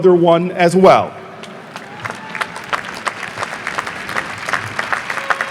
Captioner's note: audience applauding